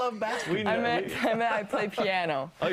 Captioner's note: laughter